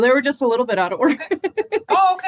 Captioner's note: chuckles